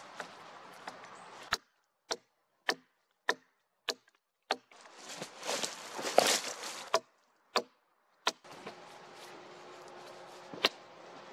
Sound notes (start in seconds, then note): 0.0 wood cracking, brushing the work with gloved hand; 1.0 axe knocking on wood, leaves rustling; 9.6 light footsteps, wood and branches cracking